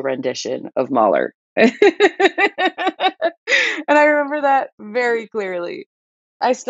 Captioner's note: laughter